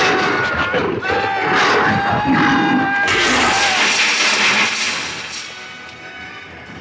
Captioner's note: Donald growling; Peter screaming